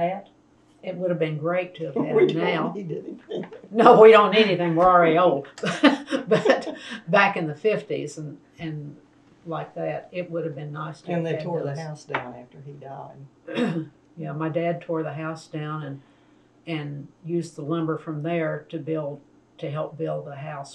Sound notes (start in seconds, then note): 1.8 laughs; 5.6 laughter